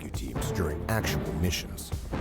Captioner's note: voiceover